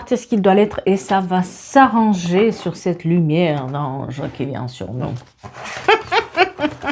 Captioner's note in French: rires